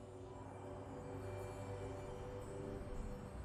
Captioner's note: bells chiming